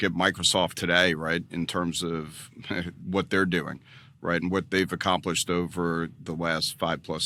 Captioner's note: laughs